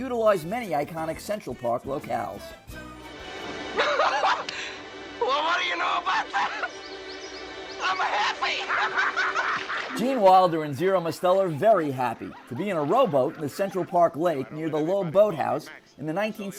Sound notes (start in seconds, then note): 5.2 laughs; 7.9 laughter